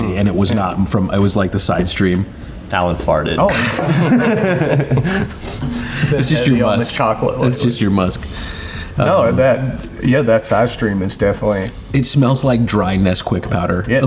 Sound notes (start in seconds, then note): 3.4 group laughing